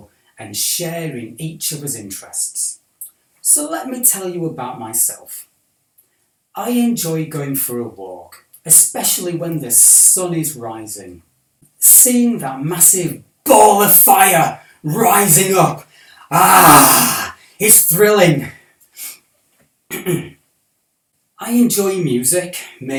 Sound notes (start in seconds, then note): 19.9 clears throat